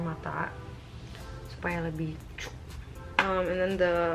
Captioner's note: popping